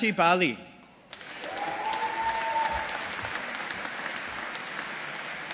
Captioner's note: audience applauding